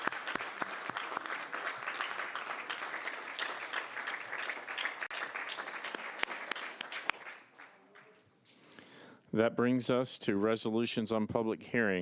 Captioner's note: applause